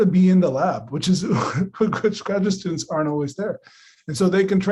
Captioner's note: laughing